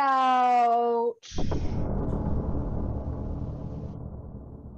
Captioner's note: cinematic Hit